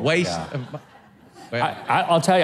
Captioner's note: audience laughs